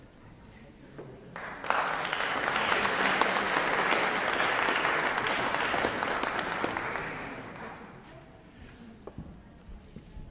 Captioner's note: applause